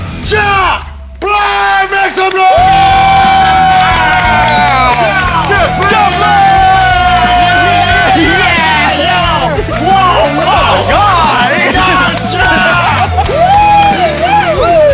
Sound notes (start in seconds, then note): 6.3 All screaming for Jack Black